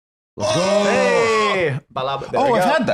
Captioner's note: all cheering